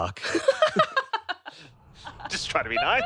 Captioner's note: both laugh